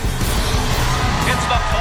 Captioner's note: cheering